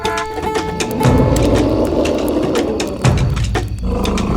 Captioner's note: dinosaur growling; dramatic drum music